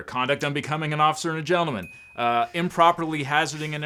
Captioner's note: bell chimes